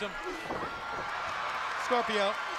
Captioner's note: crowd cheering